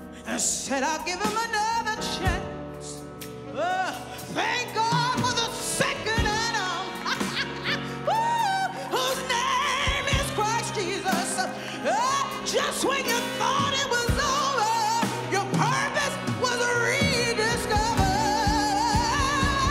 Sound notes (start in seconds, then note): 7.0 laughs